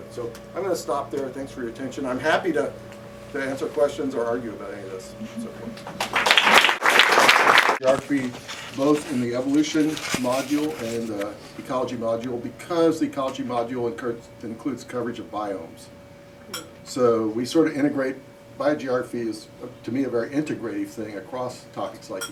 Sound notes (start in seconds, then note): 5.8 applause